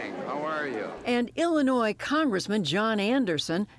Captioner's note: voice-over